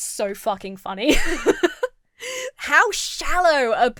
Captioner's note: laughs